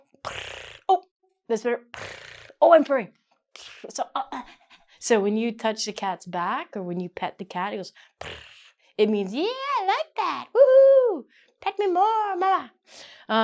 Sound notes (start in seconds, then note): 0.0 purrs; 4.4 purrs and pants; 8.2 purrs